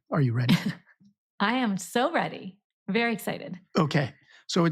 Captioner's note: laughs